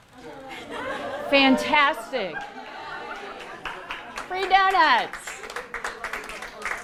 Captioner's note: applause and laughter